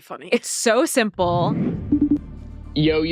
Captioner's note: screen whooshing